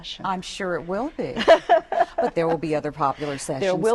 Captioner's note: laughter